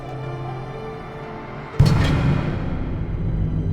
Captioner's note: door slamming